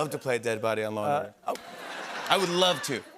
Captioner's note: laughter